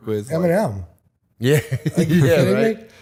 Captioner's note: chuckle